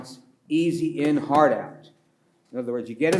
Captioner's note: pats table; pats table